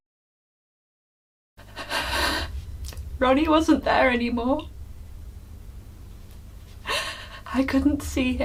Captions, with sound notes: [Tracy crying] Ronnie wasn't there anymore. [eerie music] I couldn't see him. [eerie music]